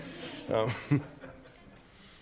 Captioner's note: laughter